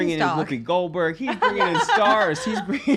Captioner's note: laughs loudly